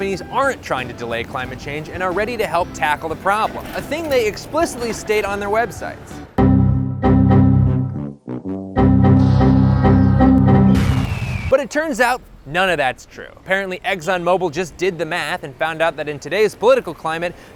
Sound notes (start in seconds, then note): 6.1 Windows XP error chime, repeatedly; 8.1 patriotic bird screech; 8.1 sad trombones